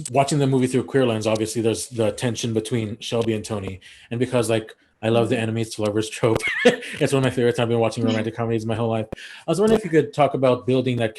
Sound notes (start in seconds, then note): 5.0 laughs